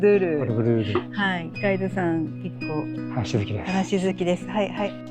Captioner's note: laughs